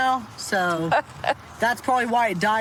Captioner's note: laughs